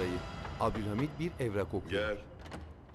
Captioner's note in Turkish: Kapı vurulma sesi; Kapı açılma sesi